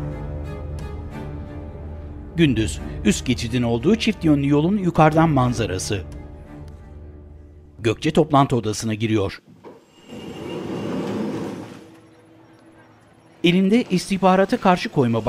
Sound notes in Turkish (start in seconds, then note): 5.2 Müzik - Gerilim; 9.4 Kapı açılma sesi